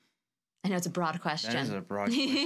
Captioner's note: laughs